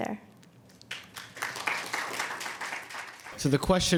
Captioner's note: audience applauding